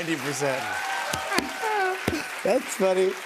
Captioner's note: cheers and applause